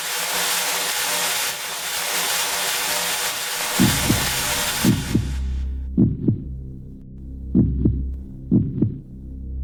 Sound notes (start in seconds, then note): 5.8 heart beating; 6.4 slow dramatic music